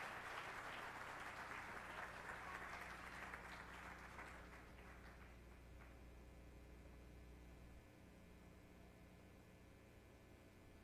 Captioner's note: applause